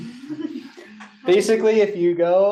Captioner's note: laughter